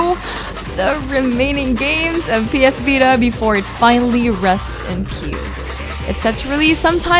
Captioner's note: sobs